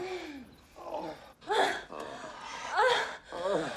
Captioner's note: grunting, Groaning